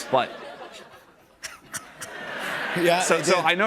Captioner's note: laughter